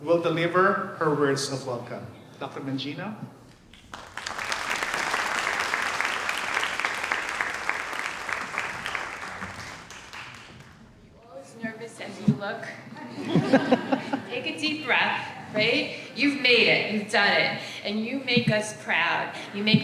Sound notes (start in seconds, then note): 3.5 audience applauds; 13.6 audience laughs